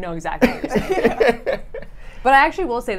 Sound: laughs

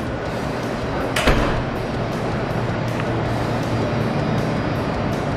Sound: door slamming

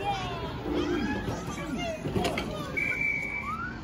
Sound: whistle blows on game

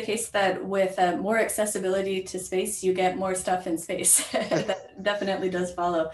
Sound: laughs

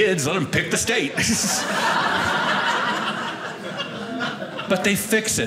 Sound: audience laughing

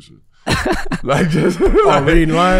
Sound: Miles laughing

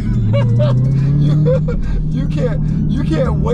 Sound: laughing

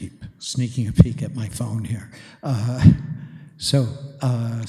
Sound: chuckles

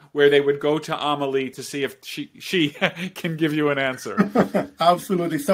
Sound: chuckles

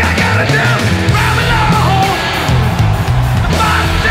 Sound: audience cheers

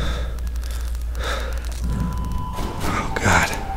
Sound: heavy breathing; breathing intensifies

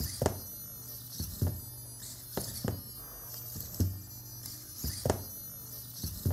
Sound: long beeping; robot squeaking

